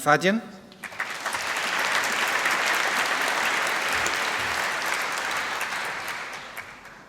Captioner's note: applause